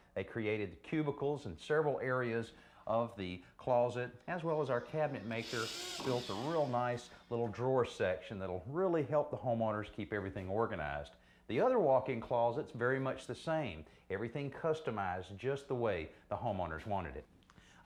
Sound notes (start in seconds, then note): 4.3 saw whirring